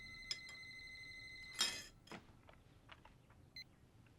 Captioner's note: glass break